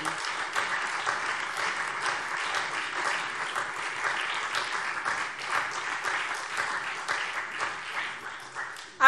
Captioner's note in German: Beifall SPD, Freie Demokraten und DIE LINKE